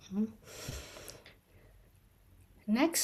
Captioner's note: affirmative sigh